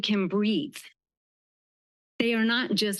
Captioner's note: pause